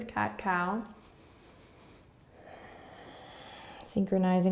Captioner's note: breathing